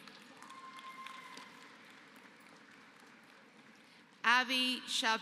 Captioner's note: applause